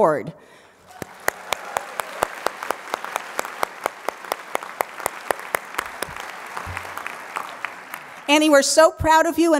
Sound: applause

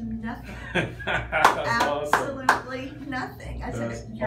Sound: laughing

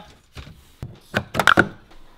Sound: rattles

